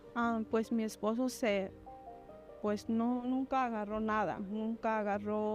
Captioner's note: woman speaking in Spanish